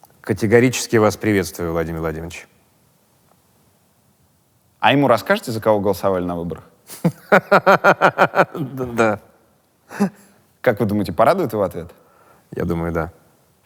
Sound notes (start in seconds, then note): 7.1 laughs